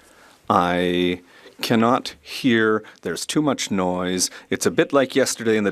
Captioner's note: speaking French